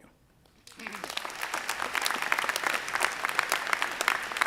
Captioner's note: audience applauding